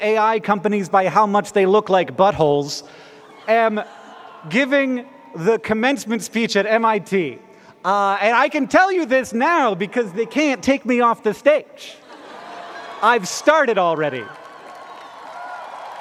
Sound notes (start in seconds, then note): 11.9 laughter